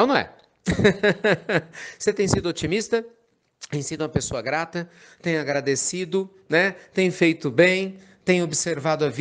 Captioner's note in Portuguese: Risos